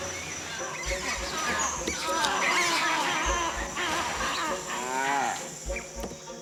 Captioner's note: monkeys screeching